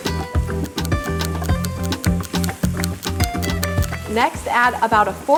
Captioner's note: clock ticking